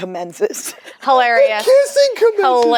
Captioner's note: laughs